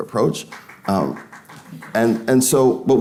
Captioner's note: audience applauding